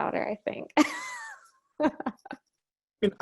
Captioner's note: laughs